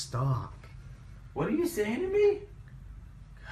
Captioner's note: voiceover